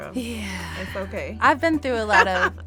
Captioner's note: sighs